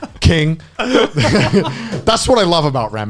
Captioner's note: laughs